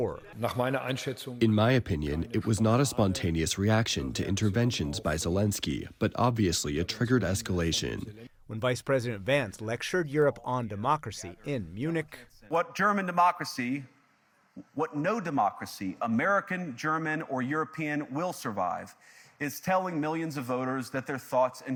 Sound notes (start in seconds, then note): 1.4 through translator